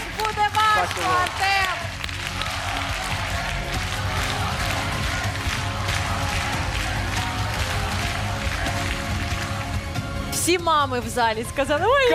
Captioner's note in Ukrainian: оплески